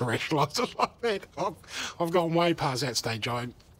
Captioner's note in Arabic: يضحك